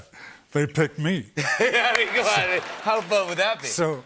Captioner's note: laughter